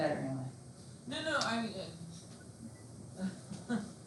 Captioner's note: laughs